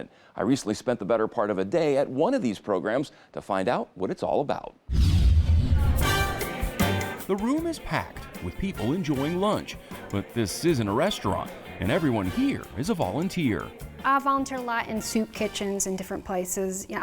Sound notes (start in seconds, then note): 5.0 light swooshes; 6.1 upbeat music